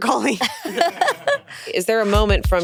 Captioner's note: laughing